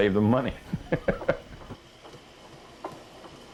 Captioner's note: laughs